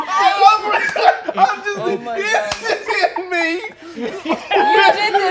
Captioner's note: stammering incoherently